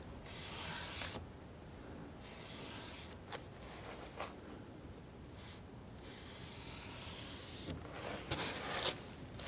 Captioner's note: scratching